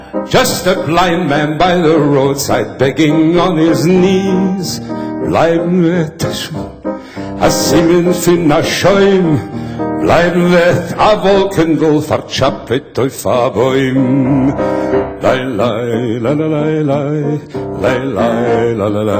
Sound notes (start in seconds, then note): 4.9 Yiddish